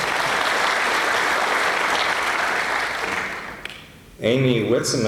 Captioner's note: applause